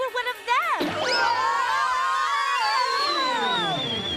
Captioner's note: yelling